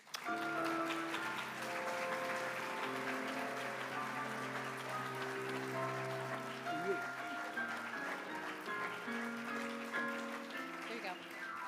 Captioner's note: applause